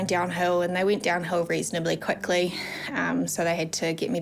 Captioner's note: sighs